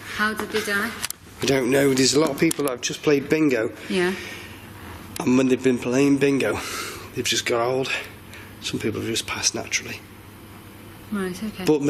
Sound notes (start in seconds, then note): none